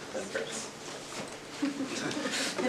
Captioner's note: indistinct conversation